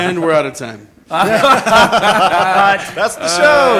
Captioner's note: laughter